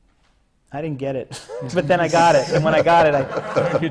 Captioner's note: laughter